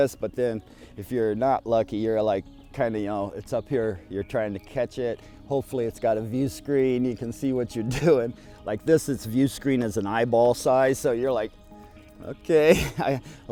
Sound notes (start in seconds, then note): 7.9 laughs; 12.7 laughs